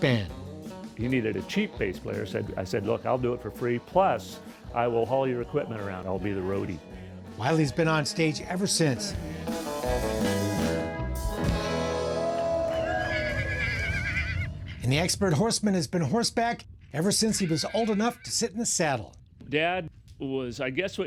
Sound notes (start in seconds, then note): 8.9 country music; 12.9 horse neighing